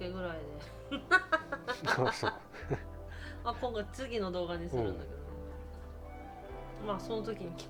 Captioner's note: laughs